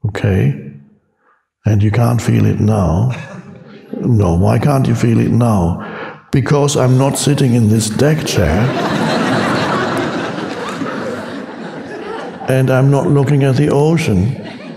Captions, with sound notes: Okay. And you can't feel it now? No. Why can't you feel it now? Because I'm not sitting in this deck chair (audience laughs) and I'm not looking at the ocean